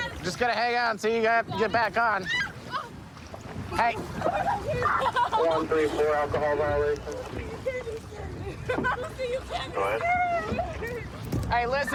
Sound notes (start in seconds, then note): 2.6 screaming